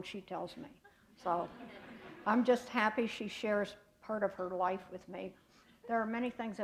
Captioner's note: laughter